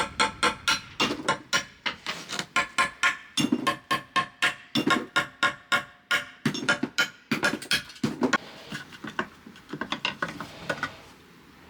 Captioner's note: metal grinding